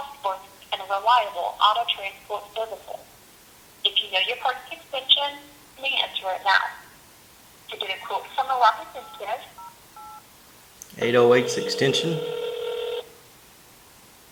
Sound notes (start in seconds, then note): 11.4 ringing tone